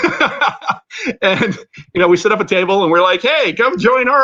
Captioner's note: laughter